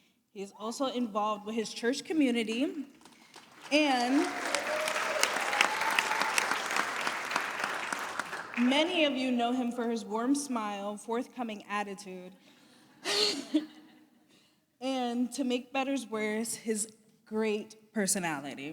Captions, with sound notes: He is also involved with his church community. And-- [APPLAUSE] Many of you know him for his warm smile, forthcoming attitude. [LAUGHTER] And to make better's worse, his great personality.